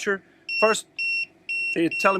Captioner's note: TPMS beeping